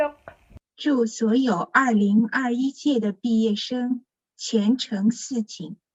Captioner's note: speaks in foreign language